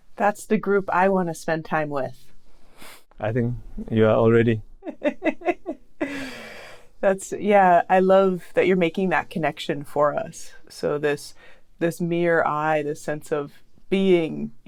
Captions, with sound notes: That's the group I want to spend time with. I think you are already. [laughs] That's. Yeah. I love that you're making that connection for us. So this mere I, this sense of being,